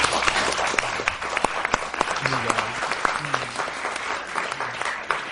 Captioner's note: applause